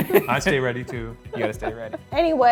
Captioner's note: chuckling